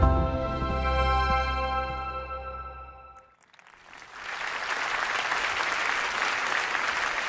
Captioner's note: applause